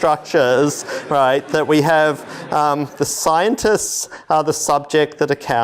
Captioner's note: laughter